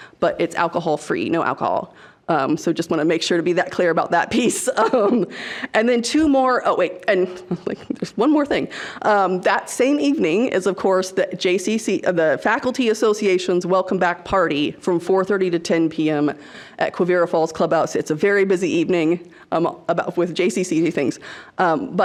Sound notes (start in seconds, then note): 4.5 laughs